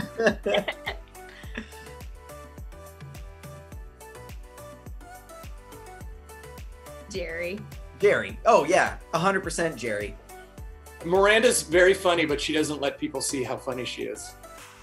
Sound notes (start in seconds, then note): 0.0 Miranda laughs; 0.0 Nathan laughs; 2.2 upbeat music